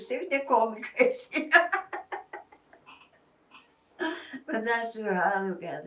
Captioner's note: laughing